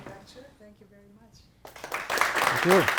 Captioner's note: applause